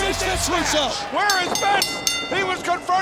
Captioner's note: bell ringing